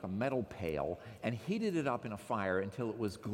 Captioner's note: none